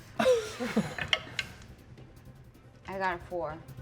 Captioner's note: die rolling